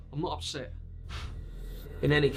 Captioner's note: scoffs